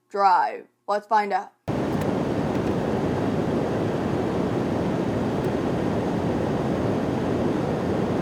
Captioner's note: car engine